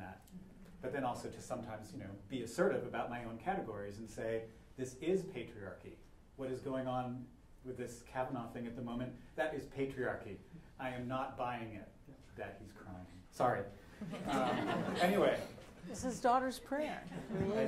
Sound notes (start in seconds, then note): 14.0 laughter